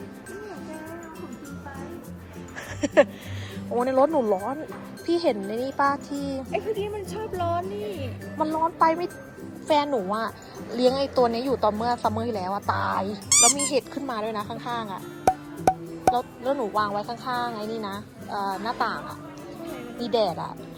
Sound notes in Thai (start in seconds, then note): 2.6 หัวเราะ